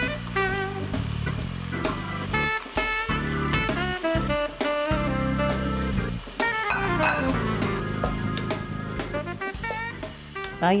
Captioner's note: sizzle